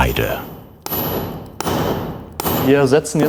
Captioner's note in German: Metallische Laute